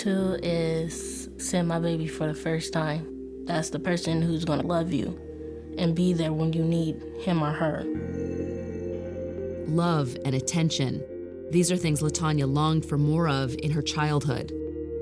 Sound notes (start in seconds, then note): none